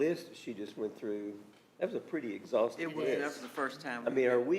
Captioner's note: others agreeing